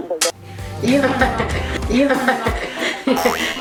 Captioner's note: laugh